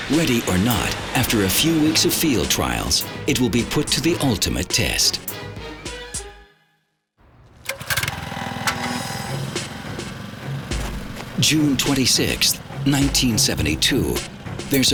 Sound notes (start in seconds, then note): 7.3 mower engine revs